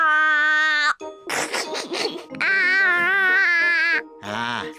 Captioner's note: giggles